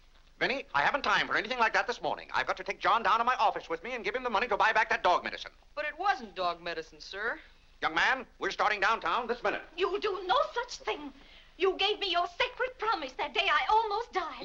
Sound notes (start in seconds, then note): none